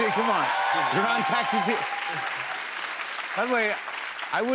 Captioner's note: cheers and applause